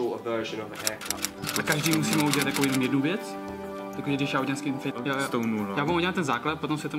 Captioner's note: speaking in czech about their plan